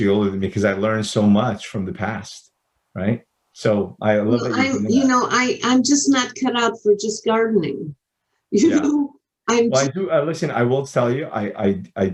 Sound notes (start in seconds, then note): 8.0 chuckles